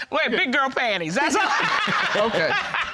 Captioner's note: laughing